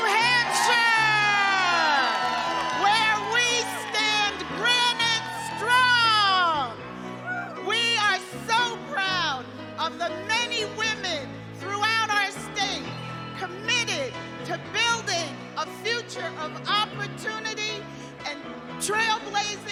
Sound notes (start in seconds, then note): 6.7 cheers and applause